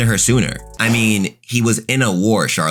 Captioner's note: fire whooshing